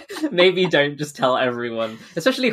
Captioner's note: laughing